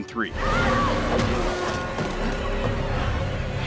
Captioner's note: character yelling